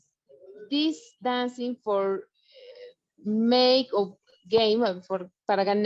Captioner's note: speaking foreign language